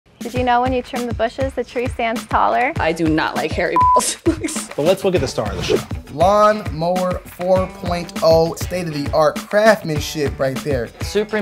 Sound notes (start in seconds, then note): 3.7 beep